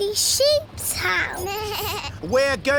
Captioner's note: suzy bleats